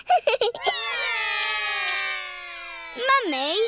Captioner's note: laughs; all cry